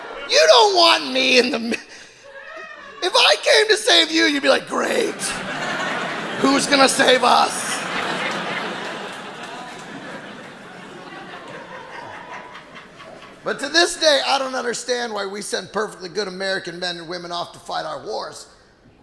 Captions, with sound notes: You don't want me in the middle. If I came to save you, you'd be like, great. (audience laughing) Who's gonna save us? (audience laughing) But to this day I don't understand why we sent perfectly good American women and men off to fight our wars